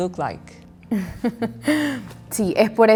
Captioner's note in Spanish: Risas